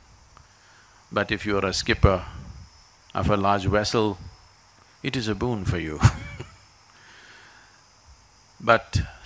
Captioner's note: laughs